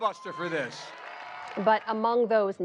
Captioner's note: crowd cheering